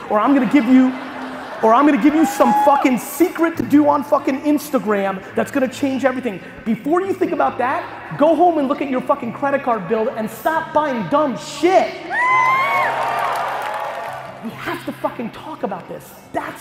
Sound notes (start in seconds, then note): 12.2 crowd applause